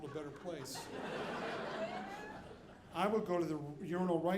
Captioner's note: audience laughing